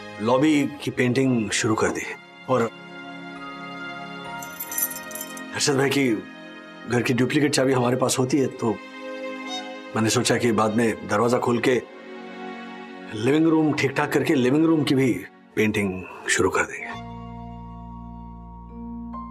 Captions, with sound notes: and began painting the lobby. And... [keys jangling] We have a duplicate key to Harshad's house. So, I thought that I would carry out repairs in the living room later and paint that as well.